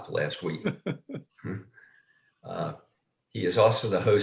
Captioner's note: laughs